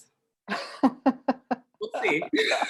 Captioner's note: laughter